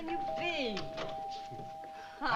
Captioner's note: doorbell ringing